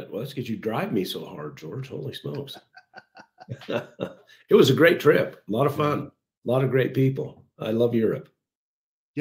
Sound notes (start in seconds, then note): 2.1 chuckles; 2.2 laughs